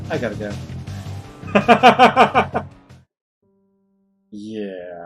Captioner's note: laughs